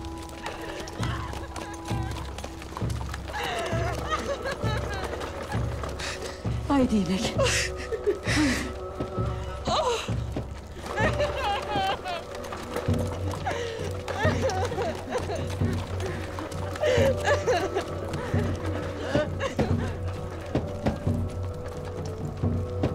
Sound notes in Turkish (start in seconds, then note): 0.0 Ağlayarak haykırıyor; 9.6 Ağlama Sesleri